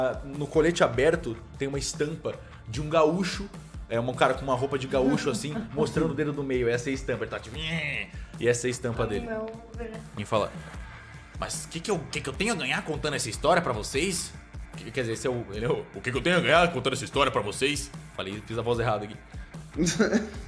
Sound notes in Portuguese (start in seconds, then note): 14.3 voz fininha; 17.8 voz grossa; 19.8 risada